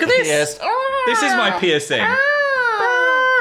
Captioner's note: caws teasingly